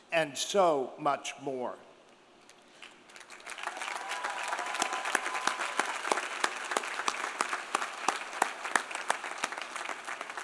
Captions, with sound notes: and so much more. (audience cheering) (audience applauding)